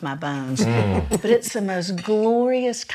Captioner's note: laughs